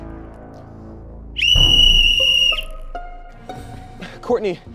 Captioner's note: whistle blares